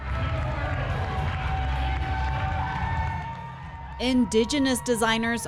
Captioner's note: audience applauds and cheers